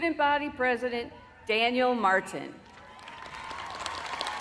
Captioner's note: applause